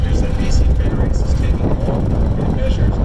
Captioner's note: wind blowing